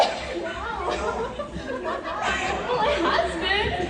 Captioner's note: laughter